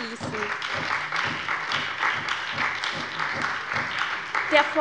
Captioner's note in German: Beifall bei der SPD